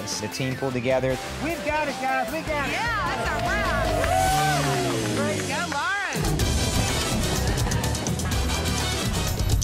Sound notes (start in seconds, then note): 4.3 all cheering; 6.5 lively horn music